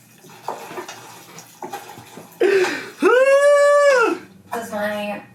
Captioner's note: laughs